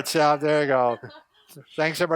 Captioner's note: laughing